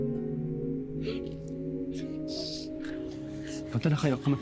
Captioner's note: melancholic music; sobbing